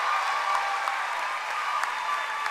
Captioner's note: cheering and applause